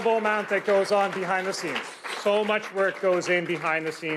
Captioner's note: applause